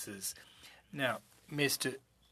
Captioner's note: speaking French